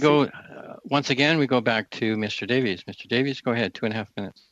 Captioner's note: speaking French